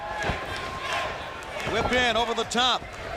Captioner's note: crowd cheering